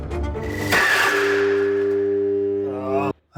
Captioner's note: grinder humming and jamming; groans